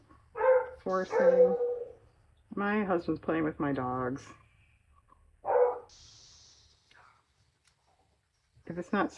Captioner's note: dog barks